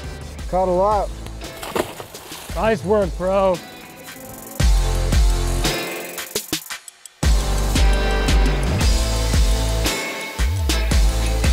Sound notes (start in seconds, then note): 1.3 fish splashes; 4.5 relaxed music